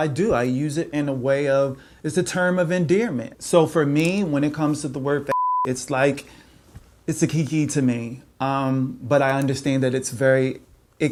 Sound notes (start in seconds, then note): 5.3 beep